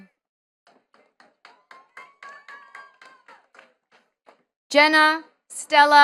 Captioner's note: attendees clapping